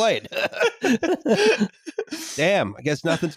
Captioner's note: laughter